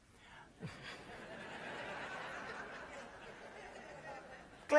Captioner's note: laughter